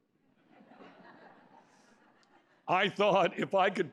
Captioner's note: laughter